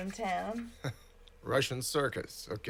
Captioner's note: scoffs